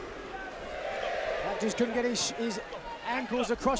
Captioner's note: crowd cheering